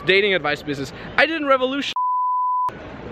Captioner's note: beep